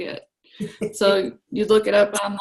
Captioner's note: laughs